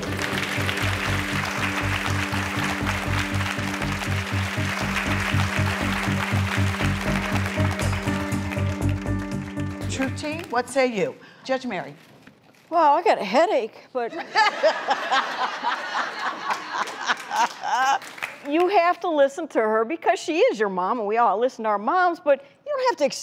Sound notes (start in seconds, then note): 0.0 clapping; 0.0 dramatic music; 14.4 laughing